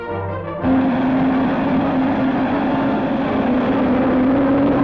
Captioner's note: rocket engine roaring